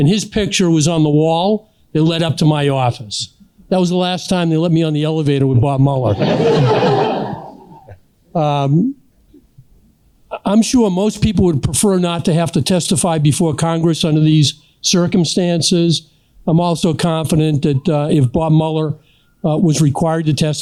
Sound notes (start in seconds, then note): 6.0 laughter